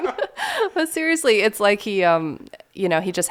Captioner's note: laughing